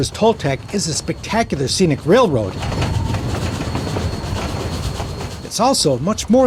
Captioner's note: train chugging